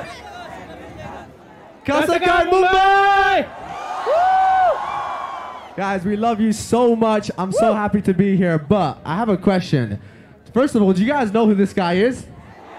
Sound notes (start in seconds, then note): 1.8 non-english speech